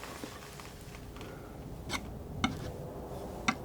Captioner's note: scratching